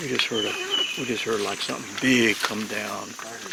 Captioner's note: zipper buzzing